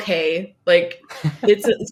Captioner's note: laughs